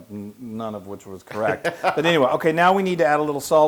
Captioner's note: laugh